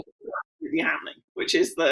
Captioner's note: voice muffling